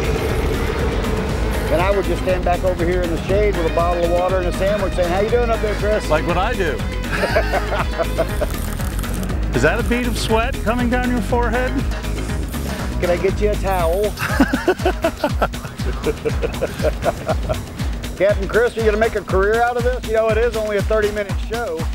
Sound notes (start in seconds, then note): 7.0 both laugh; 14.0 both laugh